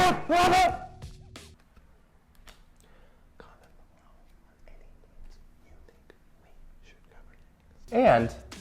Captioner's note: silence